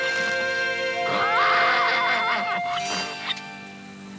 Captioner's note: whinnying